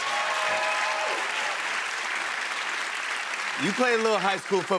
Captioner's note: cheers and applause